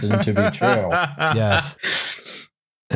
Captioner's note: laughs